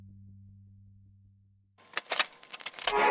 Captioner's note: radio crackle